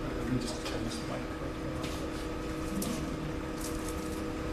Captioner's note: speaking faintly